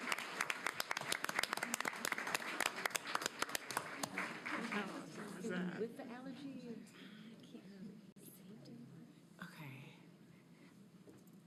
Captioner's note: applause